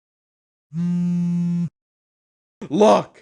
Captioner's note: phone buzzing